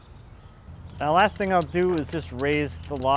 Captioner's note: ratcheting